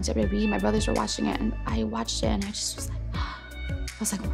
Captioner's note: gasps